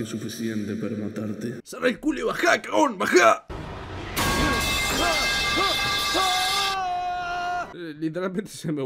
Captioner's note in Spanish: metal pipe sound effect junto al final de la cinemática